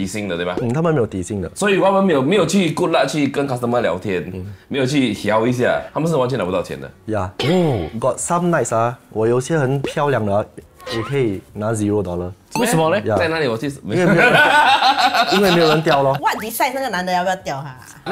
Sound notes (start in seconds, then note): 14.2 laughs